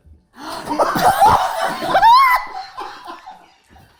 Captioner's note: group laughing